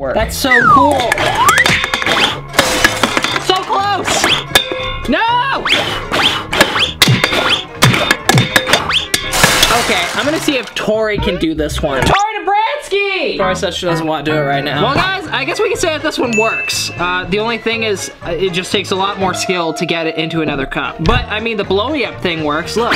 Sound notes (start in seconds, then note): 1.2 blows; 5.6 blows; 5.7 can clatters